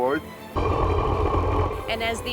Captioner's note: rumbling